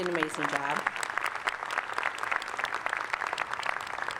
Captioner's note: applause